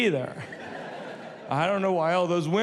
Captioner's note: audience laughs